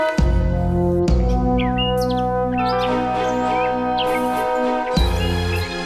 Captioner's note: birds chirping